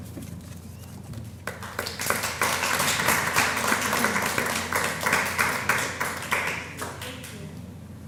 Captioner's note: applause